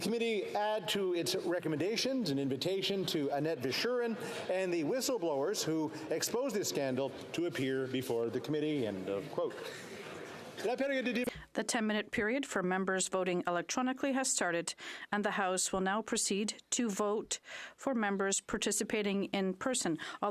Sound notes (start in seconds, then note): 14.7 speaking French